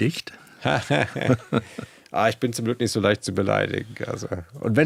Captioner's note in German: gelächter